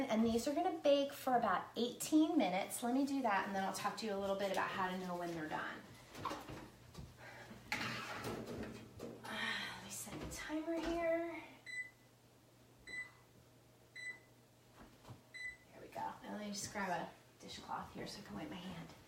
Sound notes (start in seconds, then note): 11.9 beeping